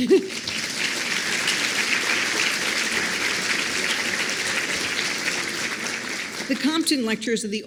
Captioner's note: applause